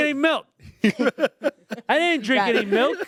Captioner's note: everyone laughs